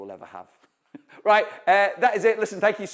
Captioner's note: chuckles